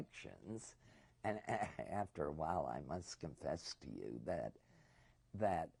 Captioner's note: laughs